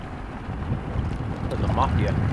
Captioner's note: water splashing